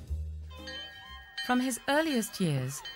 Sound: whimsical string music; bell ringing; children chattering

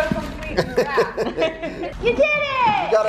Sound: laughing

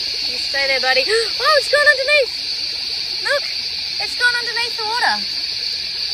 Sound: gasps

